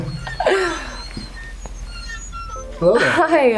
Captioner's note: laughs; curtains squeak